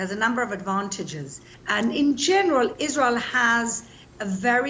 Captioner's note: none